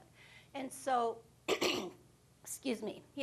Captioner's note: coughing